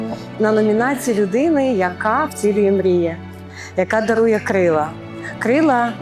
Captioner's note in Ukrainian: сопіння